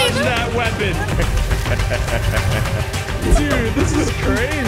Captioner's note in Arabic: تضحك